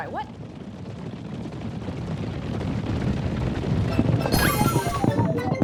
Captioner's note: stampede sound intensifies